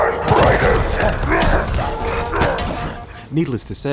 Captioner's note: Brute roars